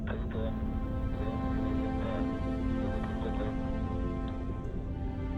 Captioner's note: man speaking in foreign language